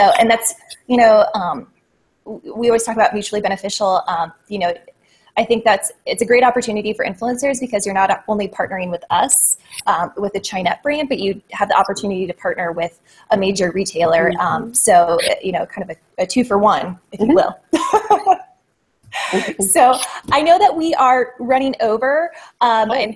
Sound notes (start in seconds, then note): 19.2 laughs